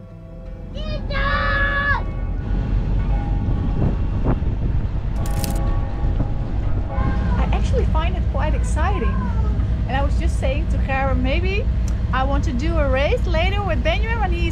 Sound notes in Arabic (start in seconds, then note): 1.0 يصرخ; 3.3 رنين الجرس